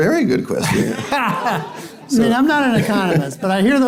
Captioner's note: laughing